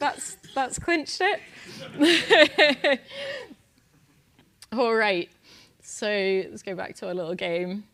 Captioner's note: laugh